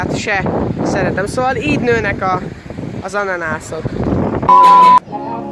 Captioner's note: sarcasm